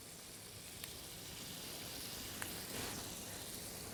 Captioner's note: pan sizzles